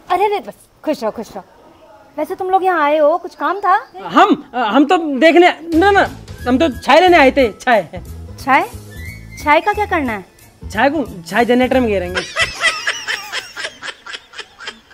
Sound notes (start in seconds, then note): 12.1 laughing